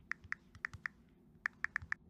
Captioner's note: typing On Phone